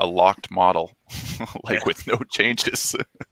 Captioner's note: laughing